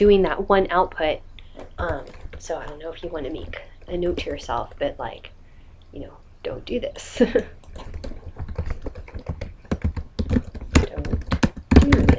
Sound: laughing

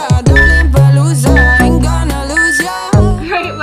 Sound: beeping

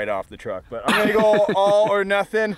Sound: laughing

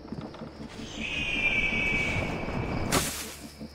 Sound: eagle screech

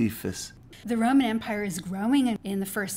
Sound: voiceover

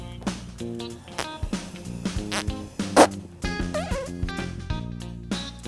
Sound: blowing

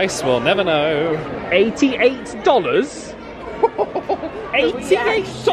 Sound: laughs

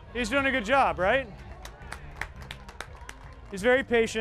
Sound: applause

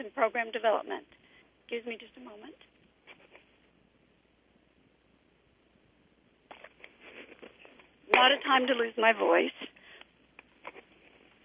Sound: pause

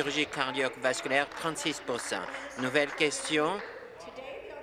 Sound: applause

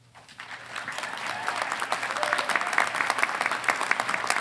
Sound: audience applauding

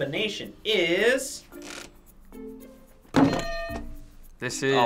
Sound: hitting bell

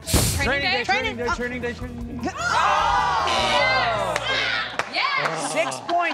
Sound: buzzer sounds; audience shouts

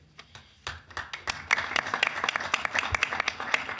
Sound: applause

